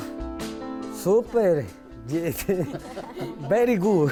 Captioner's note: chuckles